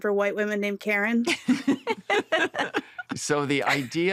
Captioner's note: laughter